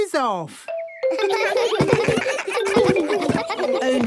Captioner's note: giggles